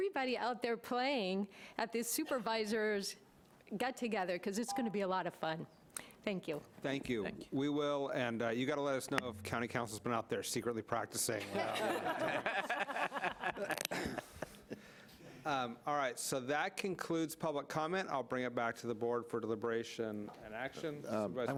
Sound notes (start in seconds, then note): 11.4 laughing